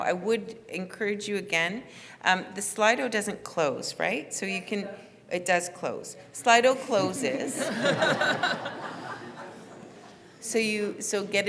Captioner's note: laughter from floor